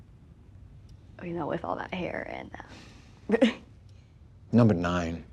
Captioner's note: laughs